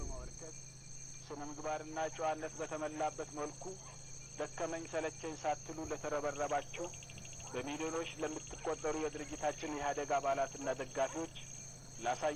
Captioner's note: playing TV sound on background